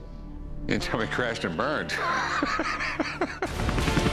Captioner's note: laughs